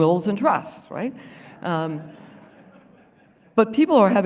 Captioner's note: laughter